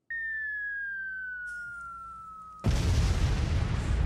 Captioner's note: bomb whistle; bomb explosion